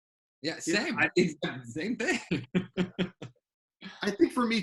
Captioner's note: laughs